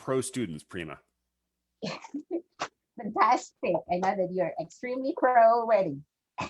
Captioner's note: chuckles